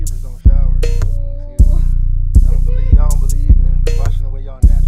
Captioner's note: laughs